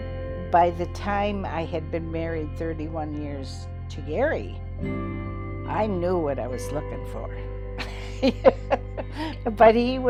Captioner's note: laughs